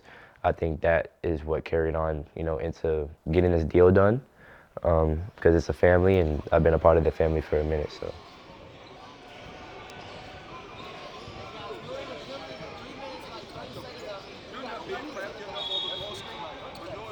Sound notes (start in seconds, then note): 9.5 sneakers squeaking; 9.5 spectators chattering